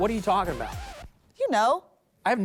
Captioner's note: record scratch